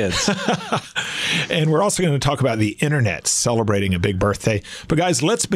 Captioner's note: laughs